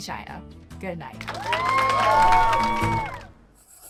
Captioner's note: applause